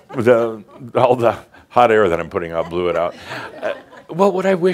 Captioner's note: some chuckles